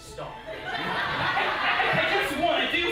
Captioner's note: audience laughing